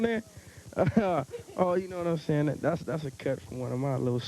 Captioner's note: chuckles